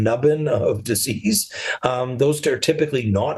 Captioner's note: laughs softly